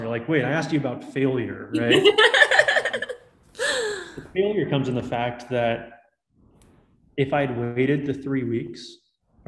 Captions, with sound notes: You're like, wait, I asked you about failure, right? (laughing) Failure comes in the fact that if I had waited the three weeks